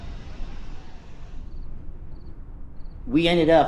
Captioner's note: crickets chirping